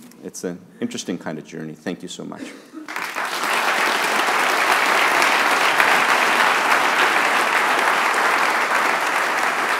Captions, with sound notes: It's an interesting kind of journey. Thank you so much. [audience applauding]